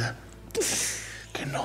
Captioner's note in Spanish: sollozos